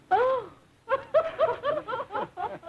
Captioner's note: laughter